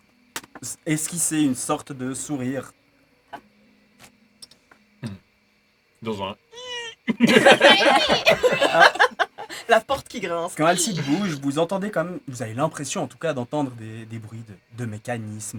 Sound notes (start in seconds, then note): 6.1 creaking sound